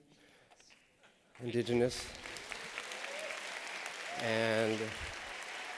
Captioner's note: applause